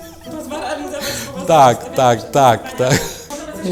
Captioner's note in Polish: kobiecy głos w tle